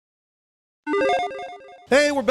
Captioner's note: logo chiming